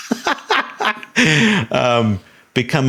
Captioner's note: Sam laughing